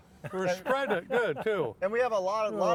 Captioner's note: laughing